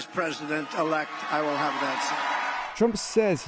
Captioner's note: cheering